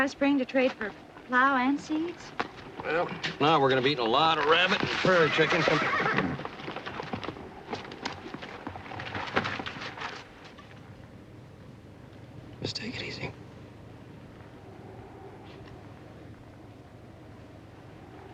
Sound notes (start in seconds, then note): 4.6 horse neighing